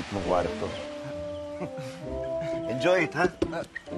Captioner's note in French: chuckles